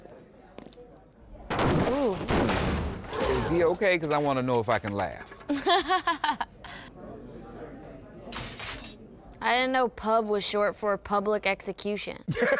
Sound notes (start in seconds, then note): 1.5 loud body impact; 5.5 laughter; 12.2 laughter